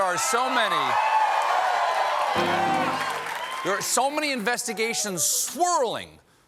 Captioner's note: applause; cheers